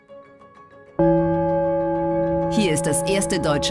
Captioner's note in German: tagesschau-Gong